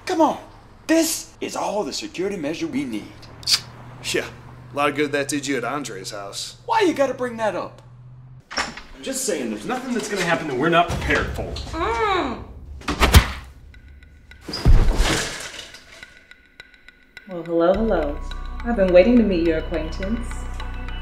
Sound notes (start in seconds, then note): 3.4 kiss; 11.8 Janet moans